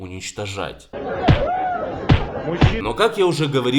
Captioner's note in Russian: Звуки ударов